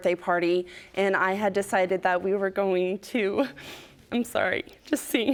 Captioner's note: voice breaking